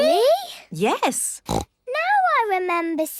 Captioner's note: snorts